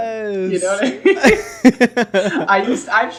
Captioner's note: laughing